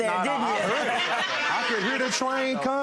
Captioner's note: audience laughing